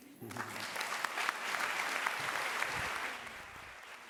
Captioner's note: applause